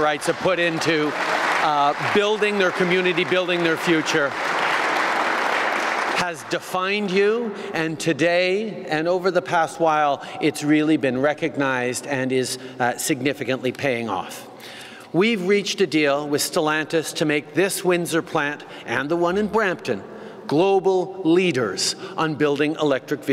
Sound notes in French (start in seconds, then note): 3.0 Applaudissements